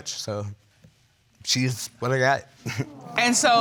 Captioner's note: chuckles nervously